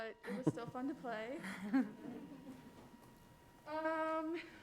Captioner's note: crowd laughs